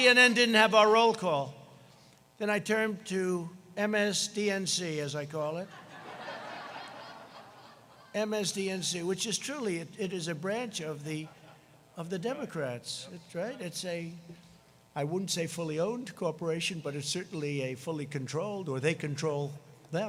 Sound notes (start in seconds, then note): 10.2 laughter